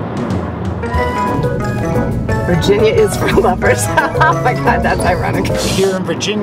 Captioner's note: laughing